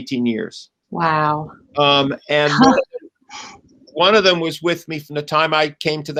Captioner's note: laughs